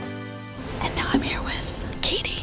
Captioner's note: whispering